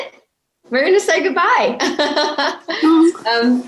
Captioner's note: chuckling